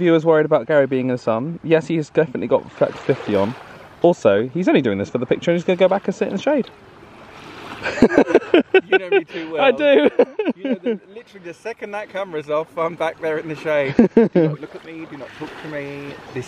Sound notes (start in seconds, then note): 7.8 laughs